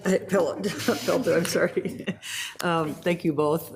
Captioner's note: laughs